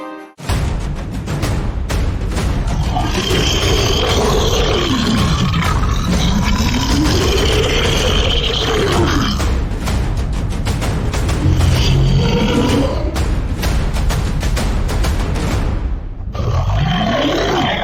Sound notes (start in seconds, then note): 0.3 war Drums; 2.7 monster Roar; 11.4 monster Roar